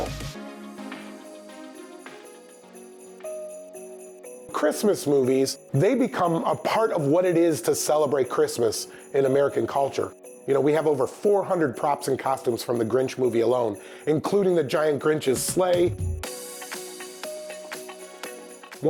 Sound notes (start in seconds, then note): 0.3 bright music; 2.2 bells ringing; 16.1 bright music